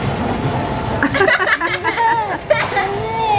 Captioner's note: laughs